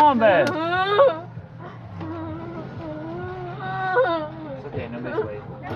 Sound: nervous squealing

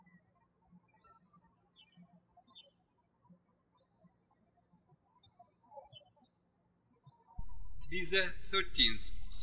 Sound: birds chirping

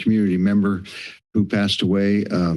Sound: inhale

